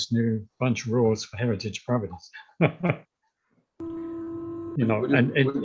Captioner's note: chuckles